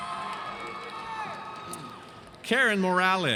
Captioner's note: audience cheers